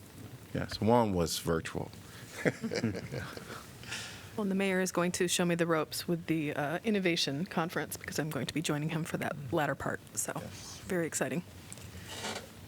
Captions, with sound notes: Yes, one was virtual. [LAUGHTER] Well the mayor is going to show me the ropes with the innovation conference because I'm going to be joining him for that latter part. So very exciting.